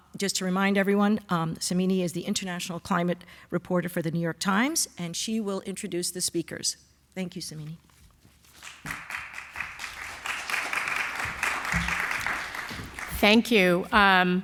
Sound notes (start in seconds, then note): 8.5 applause